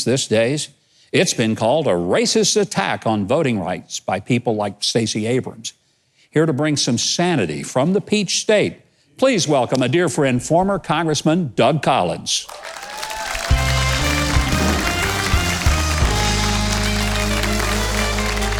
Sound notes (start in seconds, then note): 12.4 audience cheering; 12.7 celebratory music